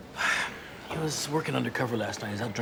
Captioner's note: sighs